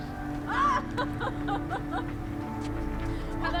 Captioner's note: laughs